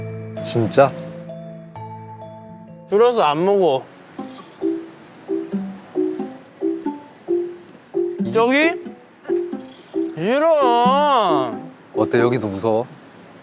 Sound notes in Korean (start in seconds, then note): 4.1 후웅